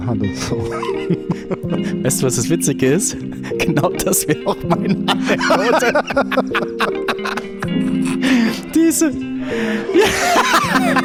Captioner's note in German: lacht